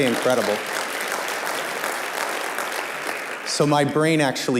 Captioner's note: applause